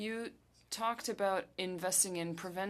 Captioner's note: speaking French